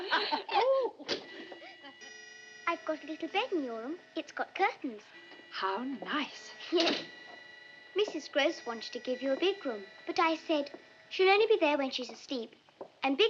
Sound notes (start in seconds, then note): 0.7 clock chiming